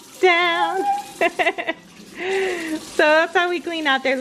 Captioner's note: laughing